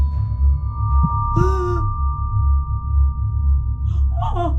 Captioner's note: mother gasping